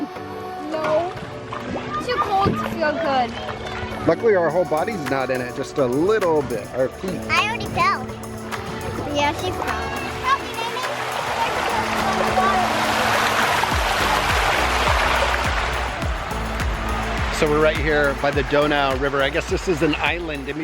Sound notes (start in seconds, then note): 12.0 water rushing; 13.7 deep rhythmic music